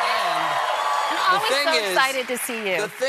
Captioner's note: cheers and applause